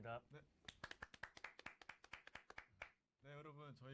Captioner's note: applause